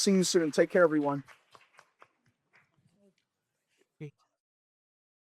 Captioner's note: applause